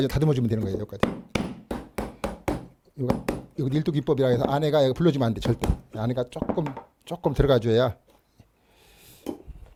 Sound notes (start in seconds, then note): 1.0 hammering sound